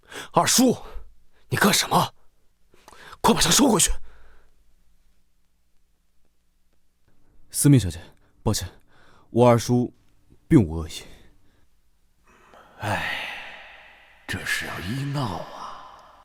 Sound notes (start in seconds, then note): 12.2 sigh